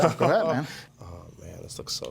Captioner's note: laughing